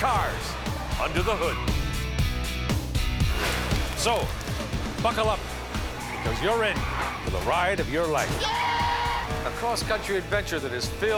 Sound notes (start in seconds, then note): 5.0 screaming